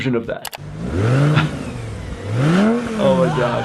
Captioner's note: car engine roaring